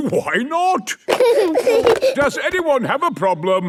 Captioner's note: giggling